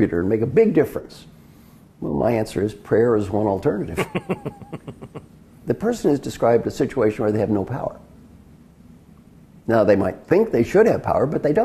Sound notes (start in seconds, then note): 3.9 laugh